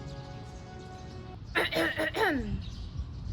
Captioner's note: royal coughs